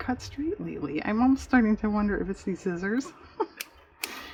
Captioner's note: laughs